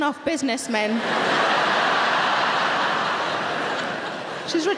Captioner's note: audience laughing